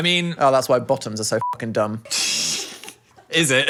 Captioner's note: beep